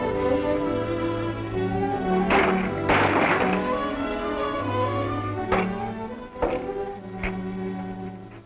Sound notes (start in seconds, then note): 2.2 loud crash